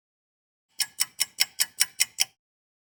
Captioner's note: sound of a ticking clock